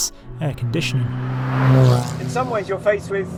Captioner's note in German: Motorgeräusche